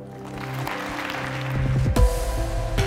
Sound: applause; light upbeat music

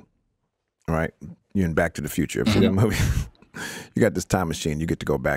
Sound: chuckles

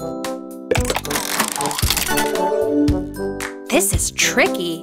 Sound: turning sound

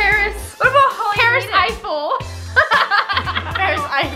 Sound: laughs

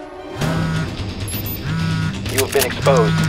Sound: phone buzzing sounds

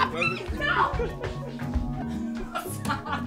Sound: Nosa laughs

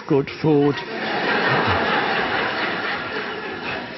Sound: audience laughs

